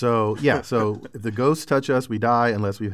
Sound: laugh

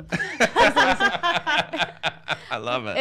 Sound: laughing

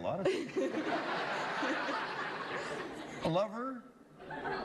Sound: laughter

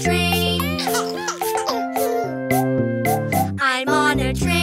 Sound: baby laughs

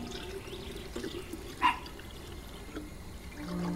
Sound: dog barks

